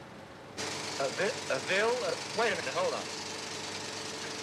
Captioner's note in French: Bruit du projecteur, film en anglais